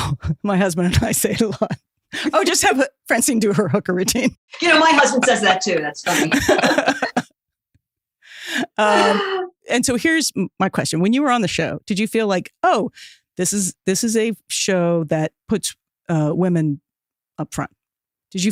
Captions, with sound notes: (giggle) my husband and I say it alot (giggles), 'Oh just have Francine do her hooker routine. Martha Smith You know, my husband says that too. That's funny. (Laughing) And so here's my question. When you were on the show, did you feel like oh, this is, this is a show that puts women upfront?